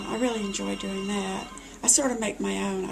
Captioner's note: phone ringing